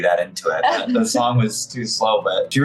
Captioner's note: laughs